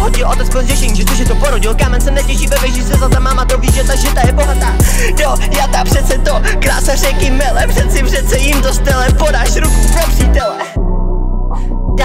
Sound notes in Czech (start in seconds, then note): 4.6 nádech